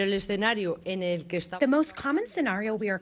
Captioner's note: through translator